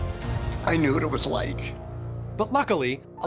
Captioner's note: choking up